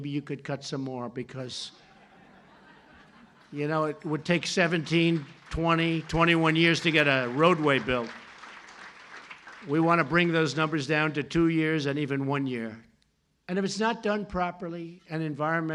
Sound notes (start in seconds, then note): 1.8 laughter; 8.0 applause